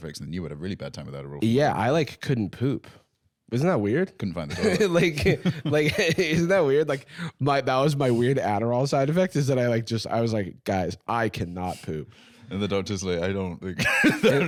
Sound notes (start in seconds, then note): 4.5 laughing